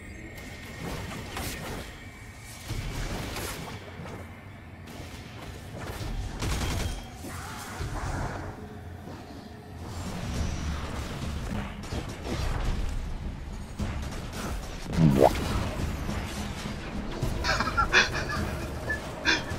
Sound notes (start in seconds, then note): 15.0 boo-womp Sound effect; 17.4 chuckling